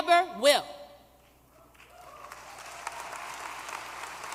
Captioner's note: applause